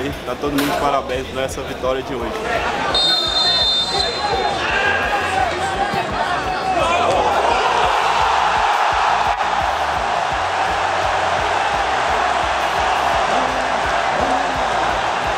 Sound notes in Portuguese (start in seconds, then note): 2.9 apito; 4.8 sons da torcida; 7.6 gritos de gol